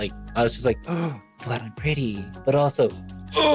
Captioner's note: gasp